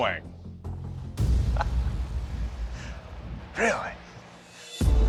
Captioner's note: laughs